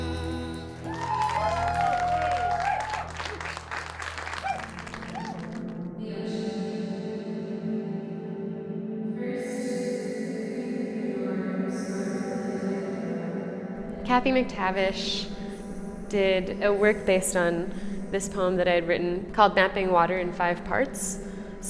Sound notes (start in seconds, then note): 0.6 applause